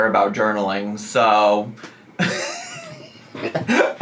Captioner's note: laughs